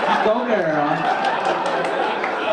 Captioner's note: audience laugh